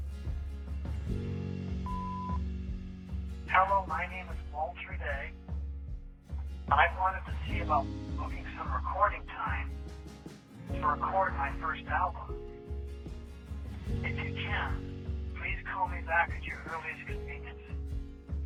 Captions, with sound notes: [upbeat guitar music] [phone beeps] Hello, my name is Walter Day. I wanted to see about booking some recording time to record my first album. If you can, please call me back at your earliest convenience.